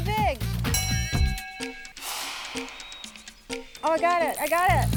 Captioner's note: bell dings